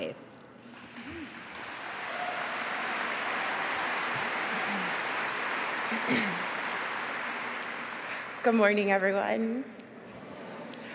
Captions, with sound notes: TOGETHER WE KNOW THAT WE CAN TRANSFORM OUR FAITH. [APPLAUSE] >>